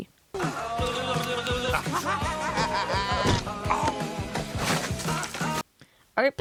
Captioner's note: physical Pain